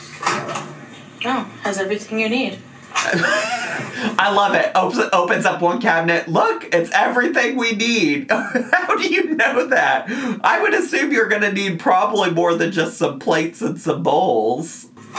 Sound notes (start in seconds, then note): 3.0 laughs